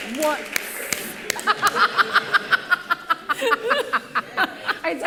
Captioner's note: laughter